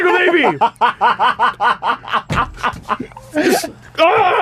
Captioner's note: laughter